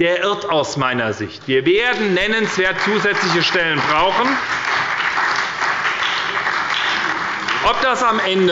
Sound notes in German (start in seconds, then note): 2.3 Beifall bei der SPD